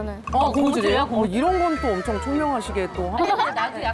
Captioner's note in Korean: 감탄